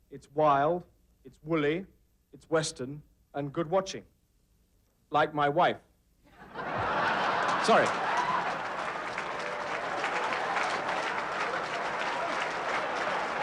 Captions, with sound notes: it's wild, it's wooly, it's western, and good watching. Like my wife. (audience laughing) Sorry. (audience applauding)